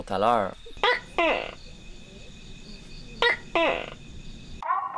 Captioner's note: gecko sounds